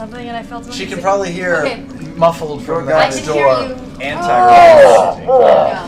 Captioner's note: grunts